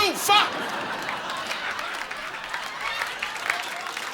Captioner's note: audience laughing